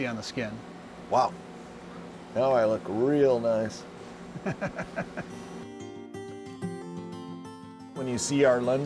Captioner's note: chuckles; gentle music